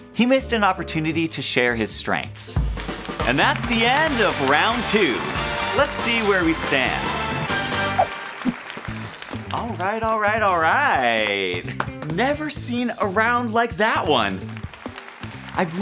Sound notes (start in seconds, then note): 3.0 crowd cheering; 11.3 clapping; 14.2 crowd cheering